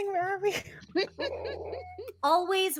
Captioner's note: all laughing